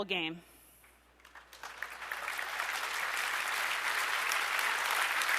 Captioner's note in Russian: аплодисменты